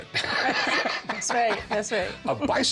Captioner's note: laughs